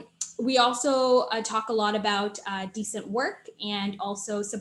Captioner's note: smacks lip